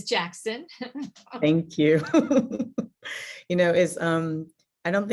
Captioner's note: laughs